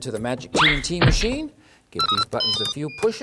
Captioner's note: bleeps-tinkle-bleeps!